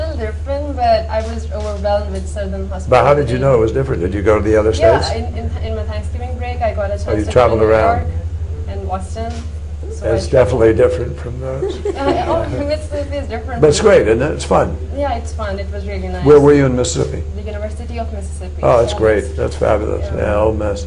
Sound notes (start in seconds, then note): 11.5 laughter